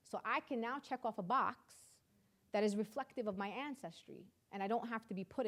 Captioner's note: none